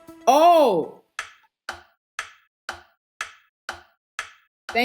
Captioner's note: clock ticking